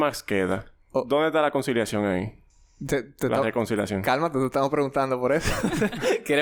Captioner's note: laughs